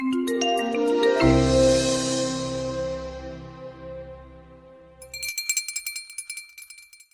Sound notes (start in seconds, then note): 0.0 gentle music; 5.0 bell tinkling